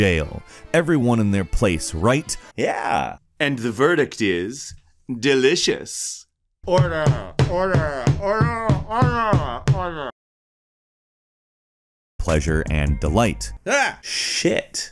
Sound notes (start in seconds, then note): 6.9 voice muffled by the cake in their mouth